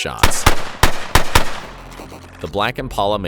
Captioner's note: gun shots blaring